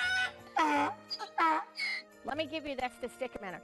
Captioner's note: rooster crowing; donkey honking